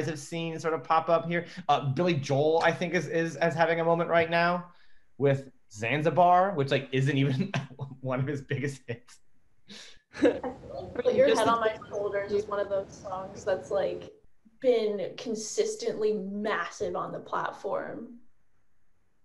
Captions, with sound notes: have seen sort of pop up here? Billy Joel, I think is as having a moment right now with Zanzibar which like isn't even one of his biggest things (chuckles) Older and just one of those songs that's like been consistently massive on the platform.